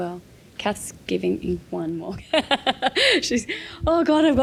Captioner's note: laughing